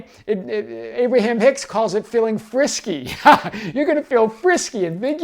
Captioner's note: laughs